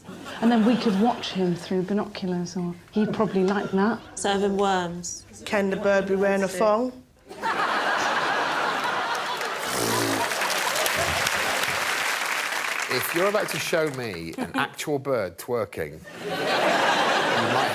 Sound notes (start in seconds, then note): 7.2 laughter; 11.9 applause